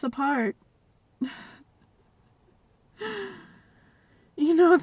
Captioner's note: nervous chuckle